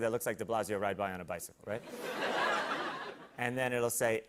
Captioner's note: laughter